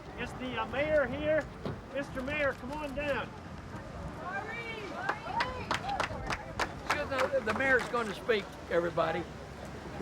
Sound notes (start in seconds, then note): 3.9 crowd chattering; 5.0 crowd clapping